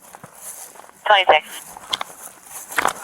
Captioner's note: radio chatter